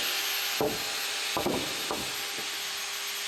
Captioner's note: continuous whir